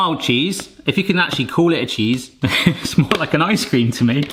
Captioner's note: chuckles